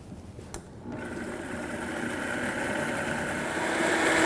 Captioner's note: blender sound